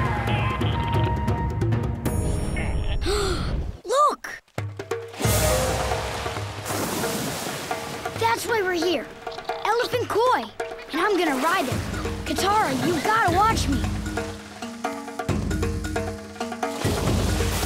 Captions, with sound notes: [gasping] Look. [splashing] That's why we're here, elephant koi. And I'm gonna ride it. Katara, you gotta watch me. [splashing]